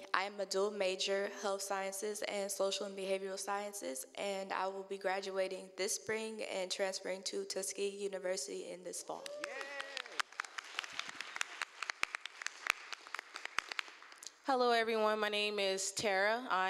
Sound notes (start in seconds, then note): 10.7 applause